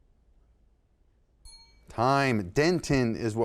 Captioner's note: bell sounds